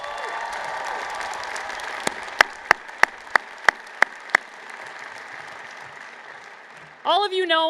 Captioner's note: cheers and Applause